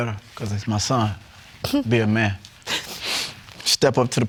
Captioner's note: sobs